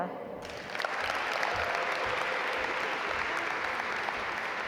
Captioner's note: audience applaud